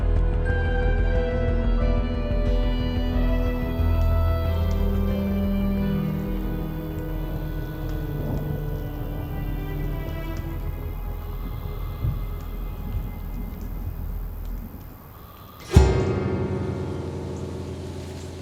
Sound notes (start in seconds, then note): 7.9 thunder rumbling; 15.6 ominous note